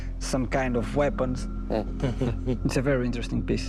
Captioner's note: soft chuckling